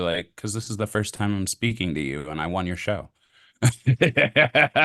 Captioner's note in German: lacht